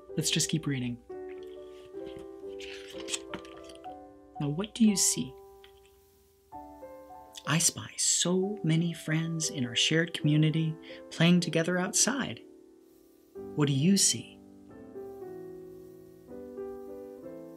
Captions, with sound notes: Let's just keep reading. (page rustles) Now what do you see? (gentle piano music) I spy so many friends in our shared community playing together outside. What do you see?